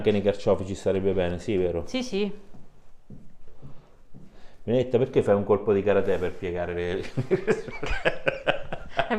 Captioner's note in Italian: Risate